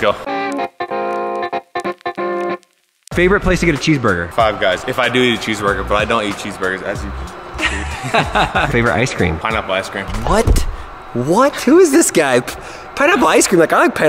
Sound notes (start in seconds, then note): 1.0 upbeat music; 7.5 laughs